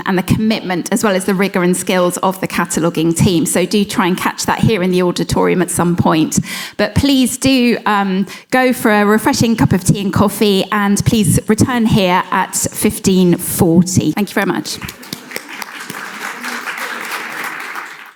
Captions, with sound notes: and the commitment as well as the rigour and skills of the cataloguing team, so do try and catch that here in the auditorium at some point. But please do go for a refreshing cup of tea and coffee and please return here at 15"40. Thank you very much. (audience clapping)